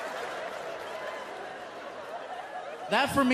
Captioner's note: laughter